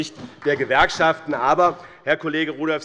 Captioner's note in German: Beifall